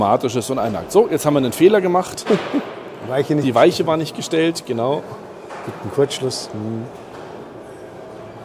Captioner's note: laughs briefly